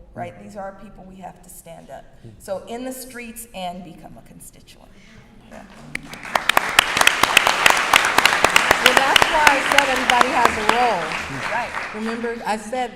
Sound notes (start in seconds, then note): 5.8 applause